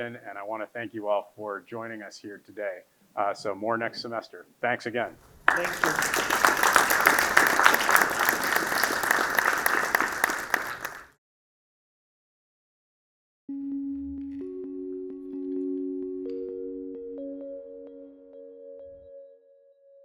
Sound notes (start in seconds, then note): 7.0 audience applauding; 13.5 soothing tones